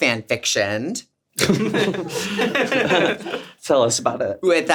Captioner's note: everyone laughs